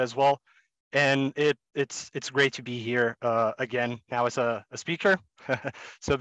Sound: laughs

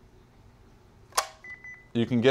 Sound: beeping

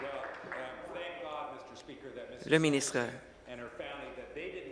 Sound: applause

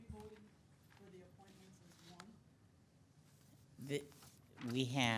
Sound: council members speaking off microphone

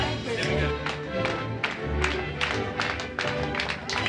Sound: clapping

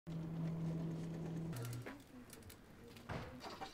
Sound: door opening

